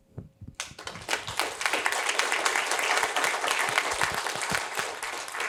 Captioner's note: applause